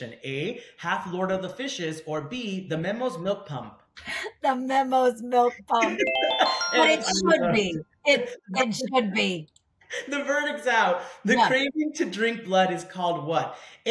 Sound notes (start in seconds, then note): 5.8 winning ring